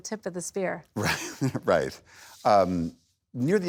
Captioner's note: laughs